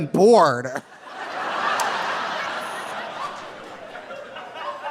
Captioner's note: audience laughing